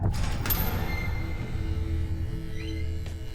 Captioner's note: buzzer sounding